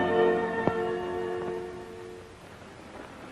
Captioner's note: none